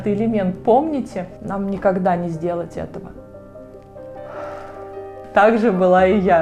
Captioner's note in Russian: вздох